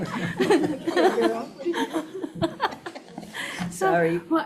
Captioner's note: all laugh